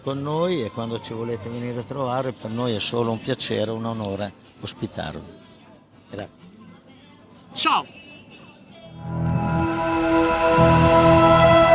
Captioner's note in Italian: Applauso